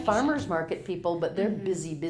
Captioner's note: pat